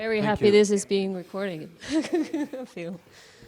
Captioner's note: laughs